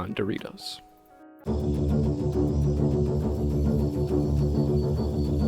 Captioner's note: intense jungle noises